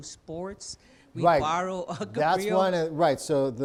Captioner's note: laughs